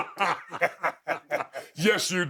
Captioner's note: both laughing